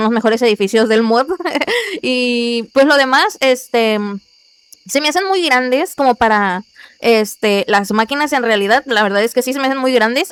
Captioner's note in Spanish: risas